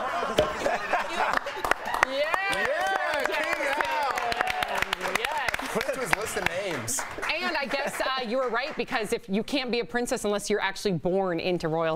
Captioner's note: laughter